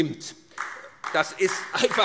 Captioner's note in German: Beifall SPD